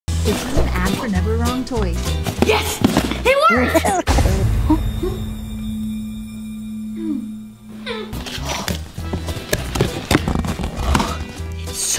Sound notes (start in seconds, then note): 3.6 elf laughs; 8.6 playful music